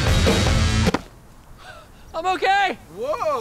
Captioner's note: laughs